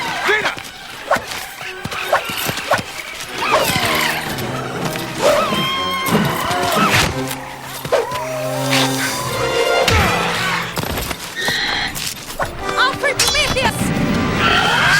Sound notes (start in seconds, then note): 5.6 tongue trills; 9.8 punching noise